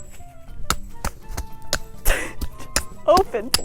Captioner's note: furious hammering